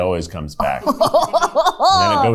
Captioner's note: laughs